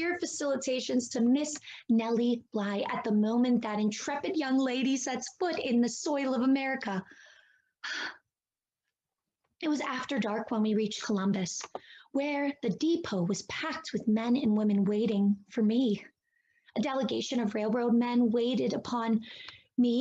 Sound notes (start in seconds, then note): 7.8 sigh